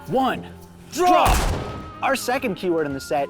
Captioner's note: gunshots